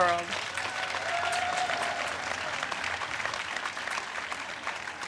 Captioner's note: audience cheers and claps